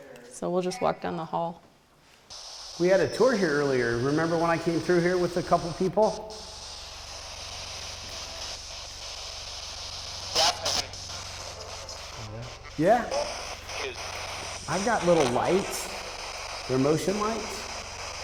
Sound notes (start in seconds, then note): 6.9 spirit box scanning; 10.2 spirit box voice; 13.6 spirit box voice